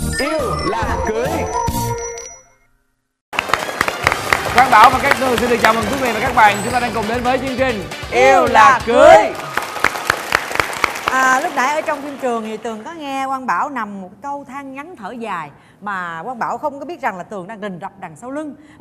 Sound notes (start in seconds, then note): 3.3 clapping sounds; 9.3 more clapping sounds